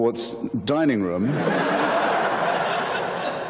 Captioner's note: audience laughter